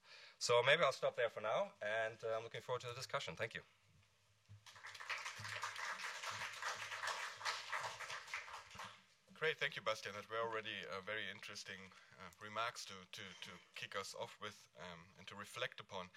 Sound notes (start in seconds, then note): 4.6 applause